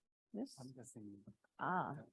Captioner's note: colleague speaking faintly